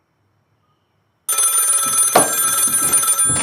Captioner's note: phone ringing